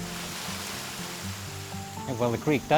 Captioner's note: waterfall hissing